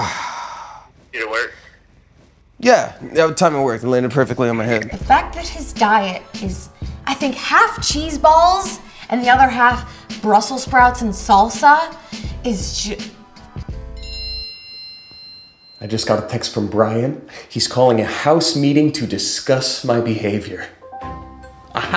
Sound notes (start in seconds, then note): 0.0 sighs; 13.9 phone chiming